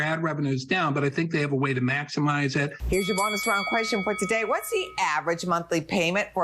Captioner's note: bell dings